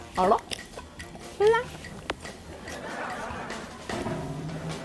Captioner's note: sassy